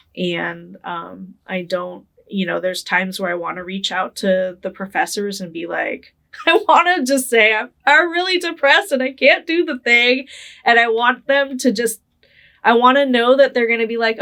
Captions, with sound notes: and there's times where I wanna reach out to the professors and be like, (laughing) "I wanna just say, I'm really depressed and I can't do the thing." And I wanna know that they're gonna be like,